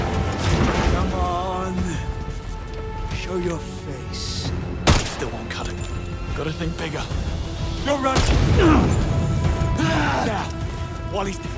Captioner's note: groaning